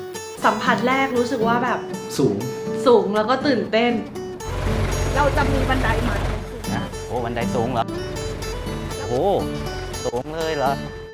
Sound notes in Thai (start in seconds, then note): 4.1 เสียงรถกระบะ